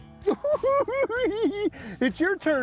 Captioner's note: cackling